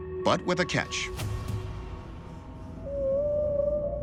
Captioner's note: whale song